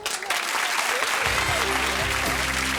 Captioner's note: audience cheering